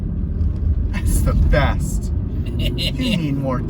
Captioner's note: snickers